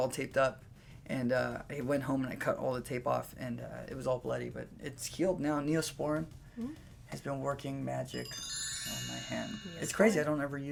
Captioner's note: magic chimes